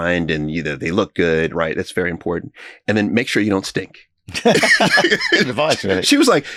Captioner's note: laughing